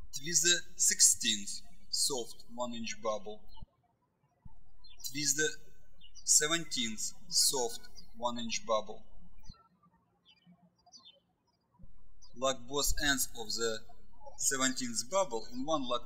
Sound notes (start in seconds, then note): 0.0 birds chirping; 9.6 birds chirping